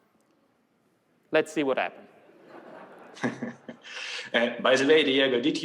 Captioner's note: laughter